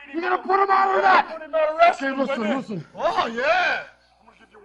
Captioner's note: all discussing